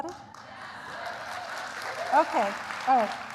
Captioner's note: applause